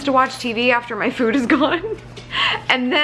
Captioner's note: laughing